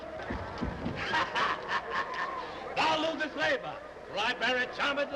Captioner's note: laughs